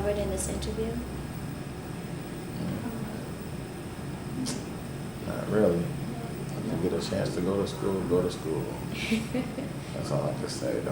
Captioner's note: laughs